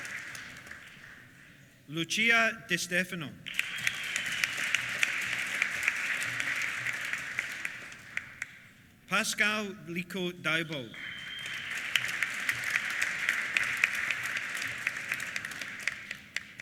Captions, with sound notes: Lucia De Stefano. (WHISTLES) (APPLAUSE) Pascal Lico Diebold. (WHISTLES) (APPLAUSE)